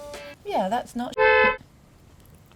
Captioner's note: beep